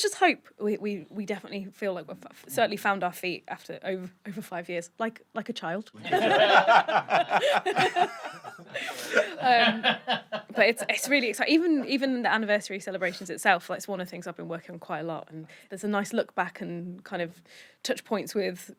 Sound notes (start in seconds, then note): 6.0 laughter; 6.0 laughing in call back